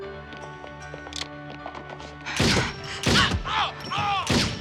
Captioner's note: running footsteps